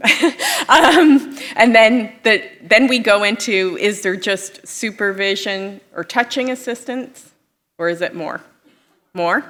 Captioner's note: laughter